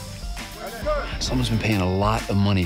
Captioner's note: muffled shouting